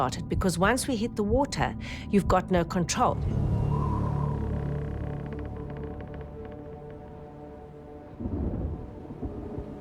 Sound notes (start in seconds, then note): 2.6 boat creaking; 3.0 wind whistling